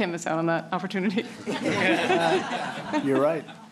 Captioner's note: laughter